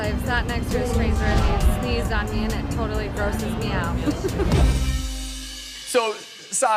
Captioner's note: laughs